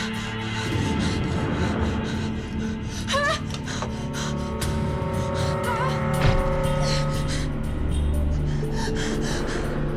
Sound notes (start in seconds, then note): 0.1 tense music playing; 3.4 breathing heavily